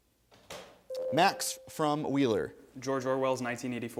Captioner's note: ding